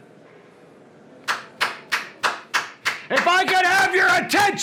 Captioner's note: loud, angry clapping